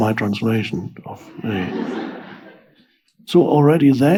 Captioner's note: audience laughs